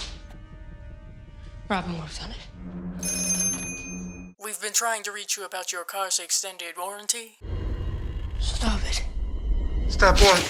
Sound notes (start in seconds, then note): 3.0 phone rings